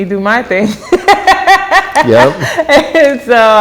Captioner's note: laughs